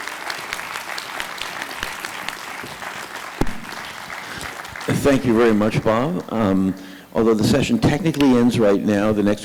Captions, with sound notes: - [Voiceover] Thank you very much, Bob. Although the session technically ends right now,